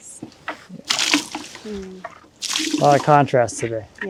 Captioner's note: liquid splashing